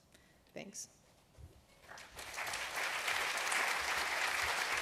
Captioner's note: applause